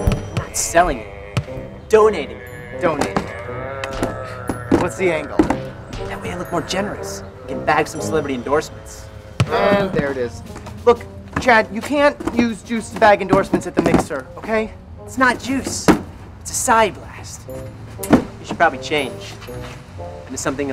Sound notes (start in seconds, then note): 3.8 laughs